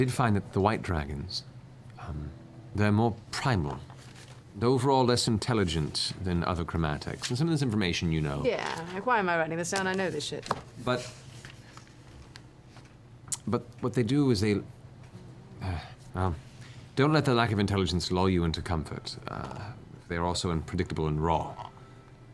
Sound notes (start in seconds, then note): 15.5 sighs